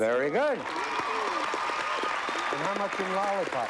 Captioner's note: cheers and applause